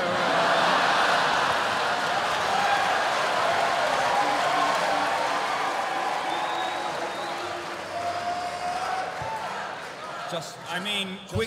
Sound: laughter

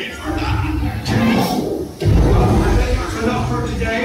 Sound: Skrewt roaring

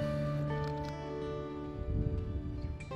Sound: camera shutter clicking; relaxing guitar music

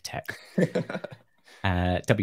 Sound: laughs

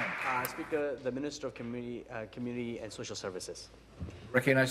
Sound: applause

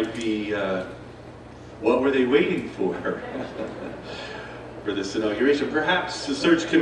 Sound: chuckles

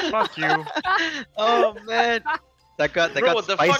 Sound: shared laughter

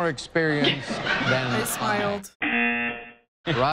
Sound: buzzer

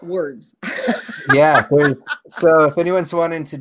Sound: laughs

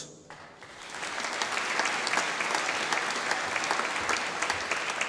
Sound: audience applauding

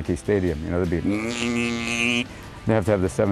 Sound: buzzing noise

